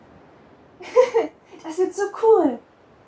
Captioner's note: chuckles